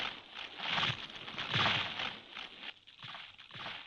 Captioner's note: tree creaking